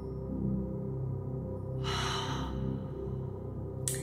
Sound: enlighted breathing

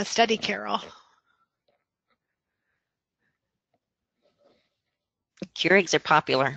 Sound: silence

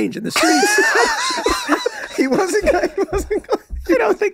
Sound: all laughing

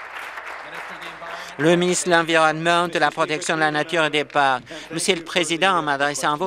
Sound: applause

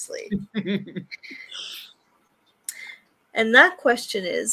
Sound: laughs

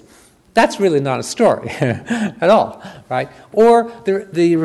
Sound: chuckles

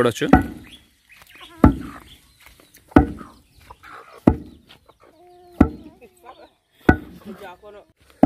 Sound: pounding sound

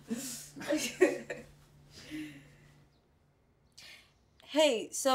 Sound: Mia chuckling; Darrell grunting

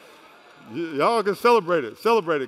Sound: applause

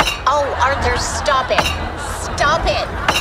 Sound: Mr. Heart Slams Table

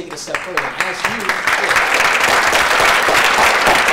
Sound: applause

